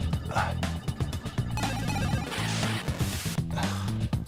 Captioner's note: grunts; game beeps; game blips; sighs